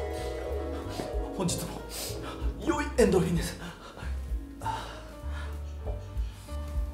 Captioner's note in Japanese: くんかくんか